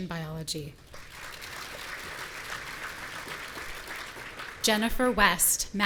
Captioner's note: audience applauding